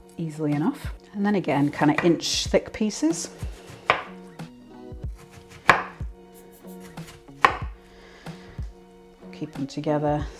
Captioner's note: chop chop chop